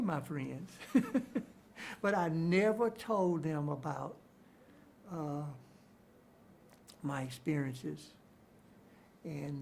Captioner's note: chuckles